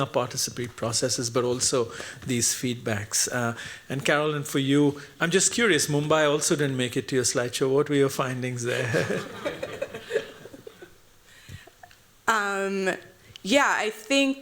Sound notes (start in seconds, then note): 8.7 laughter